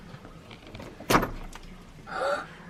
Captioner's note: padlock unlocks